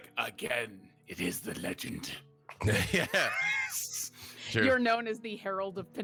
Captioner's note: laughing